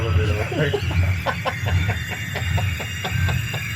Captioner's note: laughter